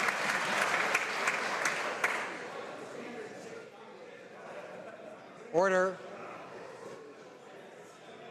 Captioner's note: some Applause